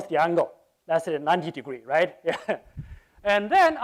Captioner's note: laughs